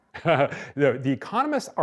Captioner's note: laughing